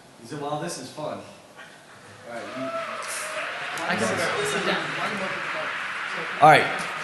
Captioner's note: applause